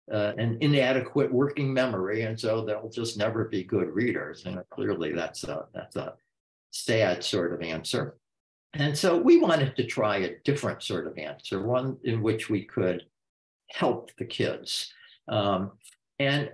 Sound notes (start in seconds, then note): none